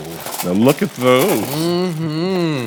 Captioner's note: tater tots clattering